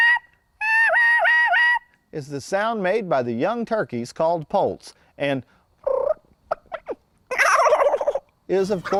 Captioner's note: purr, gobble